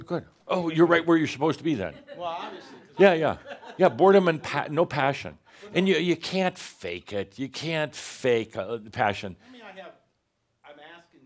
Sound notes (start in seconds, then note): 2.8 he chuckles